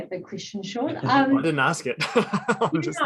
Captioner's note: laughs